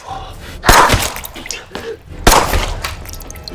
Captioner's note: gun firing